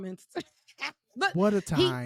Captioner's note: laughing